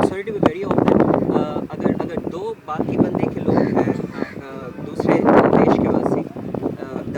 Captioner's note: Hindi